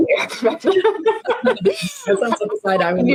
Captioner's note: presenters laughing